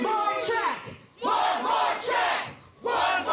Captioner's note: crowd